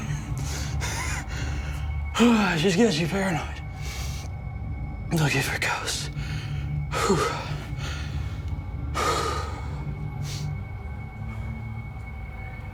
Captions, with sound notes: - (laughs) It just gets you paranoid, looking for a ghost. (heavy breathing)